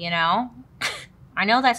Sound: scoffs

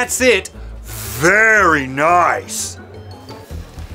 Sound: sarcasm

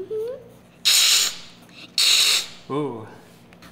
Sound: hissing

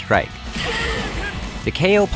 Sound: game SFX

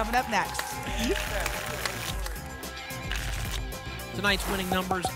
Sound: tickets shuffling

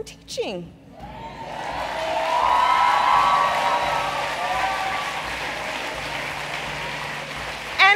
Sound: applause

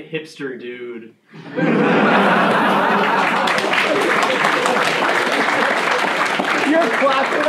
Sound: laughing and clapping

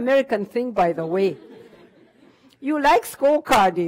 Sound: audience laughter

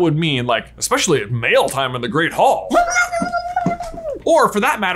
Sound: screeches

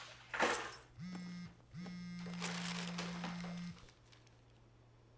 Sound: phone vibrating

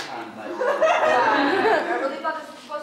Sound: audience laughter

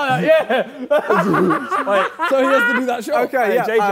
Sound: Ethan laughs

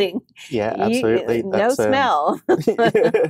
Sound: both laughing

